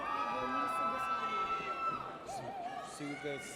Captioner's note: audience cheers